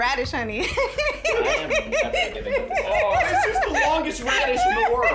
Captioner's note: laughing